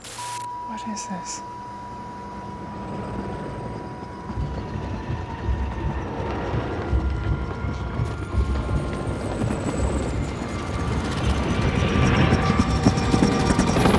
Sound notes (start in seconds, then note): 0.3 tone whining; 2.3 helicopter blades thrumming